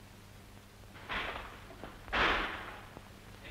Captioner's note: door opening